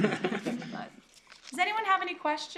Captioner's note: laughter